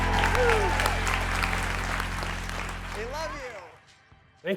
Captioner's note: applause